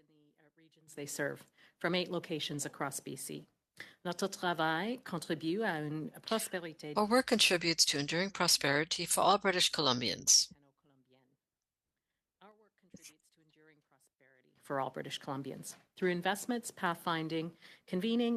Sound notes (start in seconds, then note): 12.3 speaking French